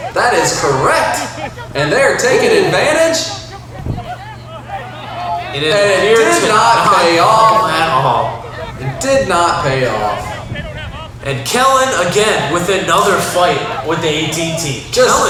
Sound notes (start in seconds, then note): 3.4 crowd talking